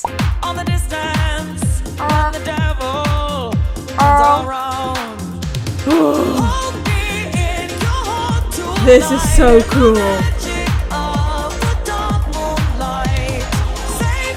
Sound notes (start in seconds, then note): 0.1 bubble popping; 5.8 grunting